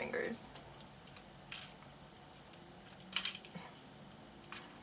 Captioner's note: plastic clicks; laughs